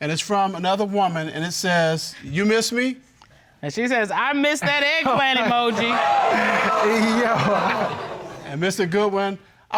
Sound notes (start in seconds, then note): 5.0 laughs; 5.4 audience exclaiming